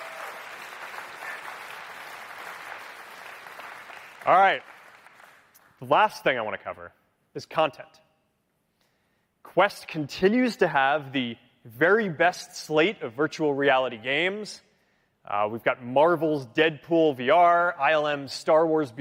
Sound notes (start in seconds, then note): 2.5 cheering; 2.8 applause